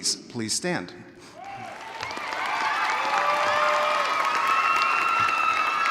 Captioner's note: audience cheering